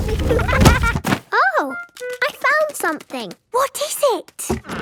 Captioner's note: thuds